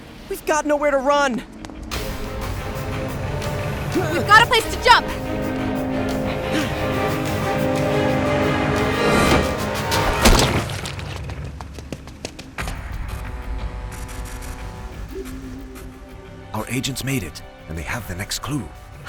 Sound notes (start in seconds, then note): 1.4 rapid footsteps; 3.4 ship blowing horn; 12.9 ship horn blowing in distance